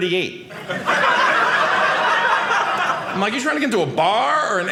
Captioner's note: audience laughing